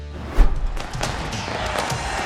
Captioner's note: fireworks boom; crowd roars